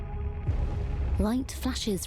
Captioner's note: thunder booms